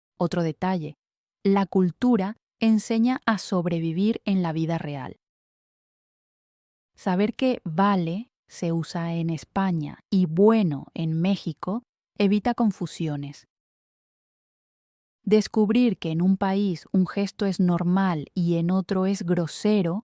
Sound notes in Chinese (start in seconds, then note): 7.9 西班牙语